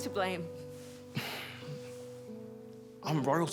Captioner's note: Alex sighs